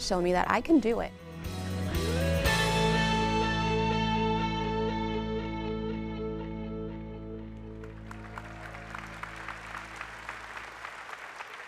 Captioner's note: applause